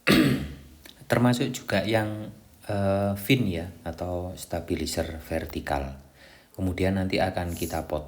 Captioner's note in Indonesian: berdehem